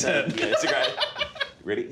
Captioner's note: laughter